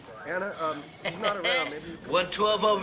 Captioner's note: laughs